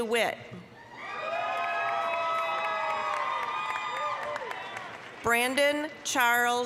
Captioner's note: applause, cheering